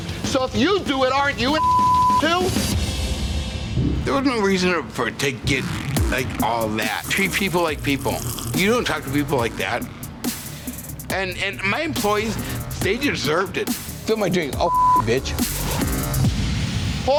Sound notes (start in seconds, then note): 1.5 beep; 2.7 dramatic music; 14.6 beep; 15.6 dramatic music